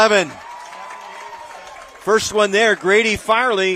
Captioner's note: applause